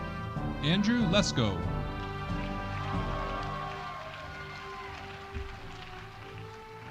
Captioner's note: audience applauding